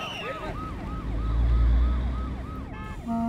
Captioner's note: Police siren wails